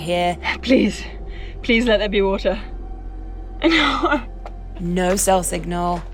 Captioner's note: laughs